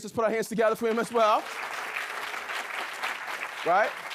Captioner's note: audience clapping